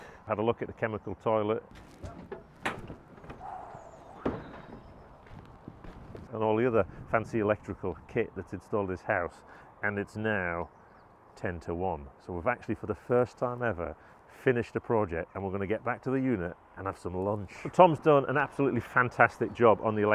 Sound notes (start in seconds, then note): 3.4 exclaims